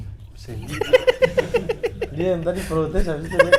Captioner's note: laughing